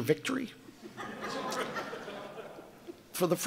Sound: audience laughing

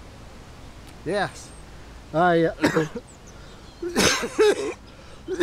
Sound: coughs heavily

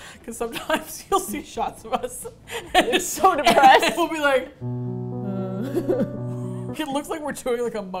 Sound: laughs; melancholy music

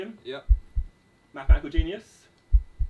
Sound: heart beating; heart beating

